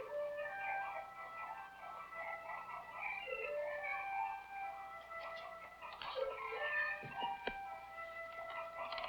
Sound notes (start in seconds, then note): 0.0 gentle music; 0.8 clucking